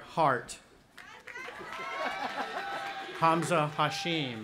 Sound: cheering; laughing

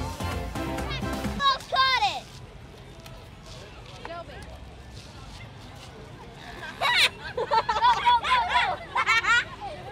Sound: kids laughing hysterically as boy chases candy bag

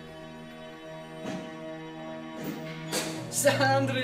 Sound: door opens

